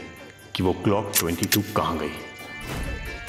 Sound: gun loading

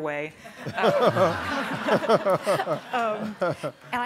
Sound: all laugh

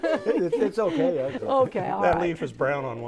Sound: laughing

